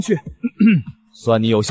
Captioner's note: cough